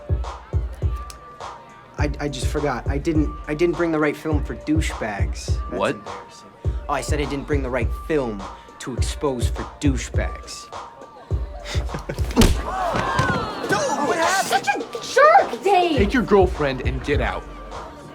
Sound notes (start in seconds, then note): 12.0 crowd groans